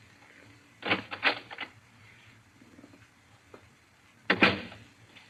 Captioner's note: door opens